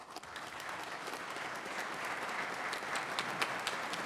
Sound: everyone applauds

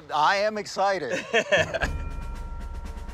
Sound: laughing

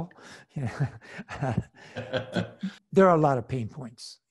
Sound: laughs

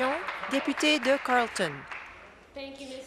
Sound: applause

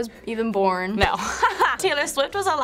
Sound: laughs

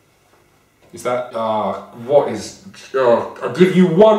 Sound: moans

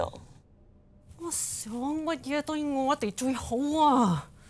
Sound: speaks cantonese

